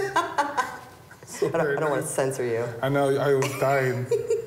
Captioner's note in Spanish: Risas